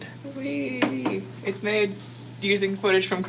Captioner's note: knock on the table